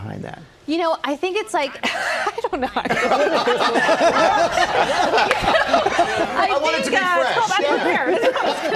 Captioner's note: laughter